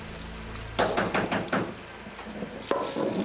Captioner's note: knocking